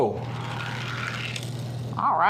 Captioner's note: toy car grating